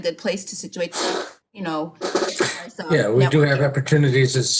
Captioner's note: screeches